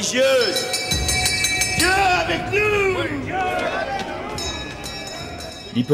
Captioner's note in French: Bruit de cloche